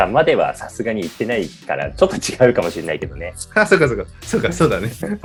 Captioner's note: laughs